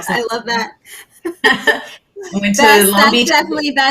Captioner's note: both chuckling